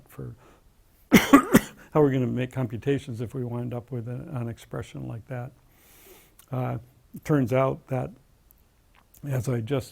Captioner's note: cough